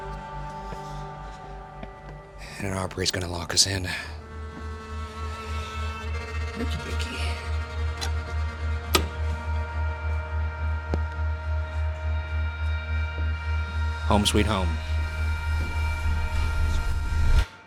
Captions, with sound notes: And Aubrey's gonna lock us in. (spooky music) Lookie, lookie here. (door handle rattles) (spooky music) Home sweet home. (spooky music)